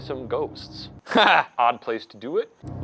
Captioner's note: laughs